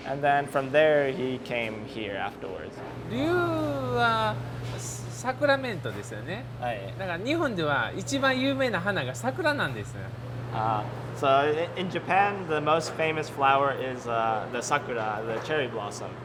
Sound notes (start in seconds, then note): 3.3 speaks in Japanese